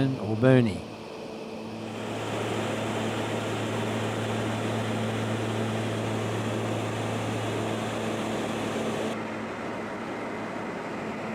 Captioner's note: aircraft sounds